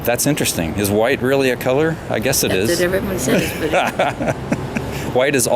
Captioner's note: both laughing